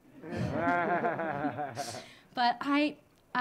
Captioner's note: audience laughing